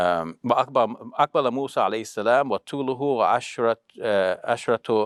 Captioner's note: speaking in foreign language